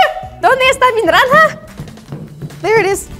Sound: feet stomp

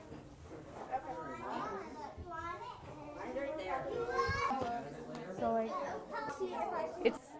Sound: indistinguishable children's chatter

